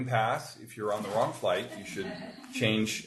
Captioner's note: group chuckles